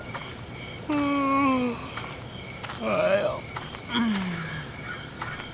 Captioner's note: yawn